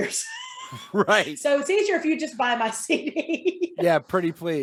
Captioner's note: laughing; laughing